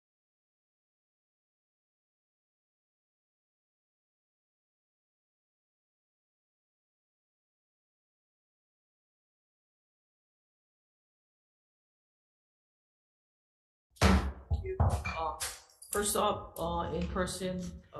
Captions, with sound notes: (gavel bangs) First off, in person,